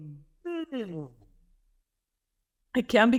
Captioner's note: yawns